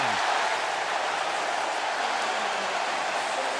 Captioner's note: cheering